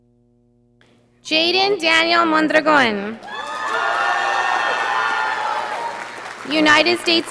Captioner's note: audience applauding